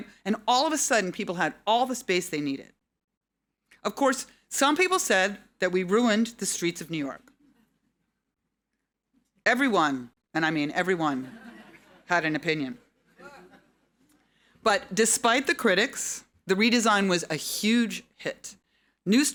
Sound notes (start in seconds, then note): 12.8 audience laughing